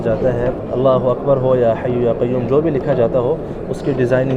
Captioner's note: Arabic